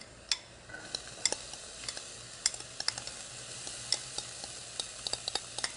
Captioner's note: clinking glass